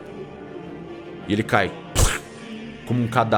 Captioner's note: pft